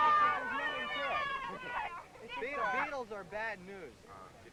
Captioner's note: loud cheering